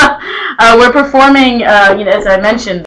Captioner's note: chuckles